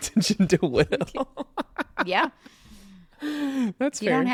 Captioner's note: laughs